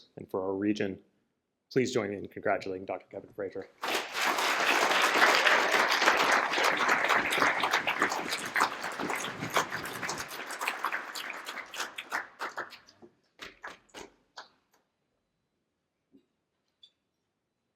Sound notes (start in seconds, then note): 3.8 applause